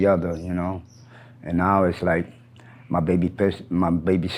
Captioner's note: birds chirp